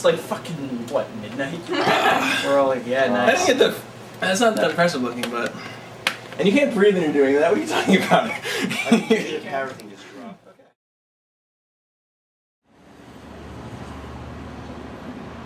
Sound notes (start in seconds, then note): 1.7 woman laughs; 5.5 gasps; 7.5 laughs